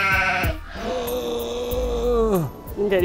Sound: goat bleats; groaning

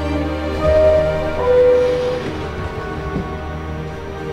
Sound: subway alarm bell

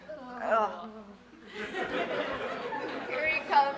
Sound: audience Laugh

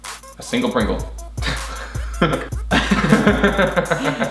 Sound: laughs

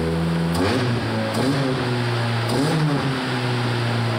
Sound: engine sputtering; pumping engine

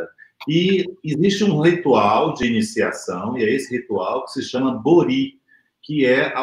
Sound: speaks portuguese

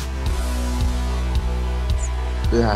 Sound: whispering

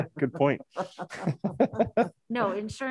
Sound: laughs

